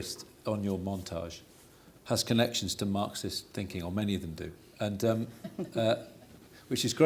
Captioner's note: laughter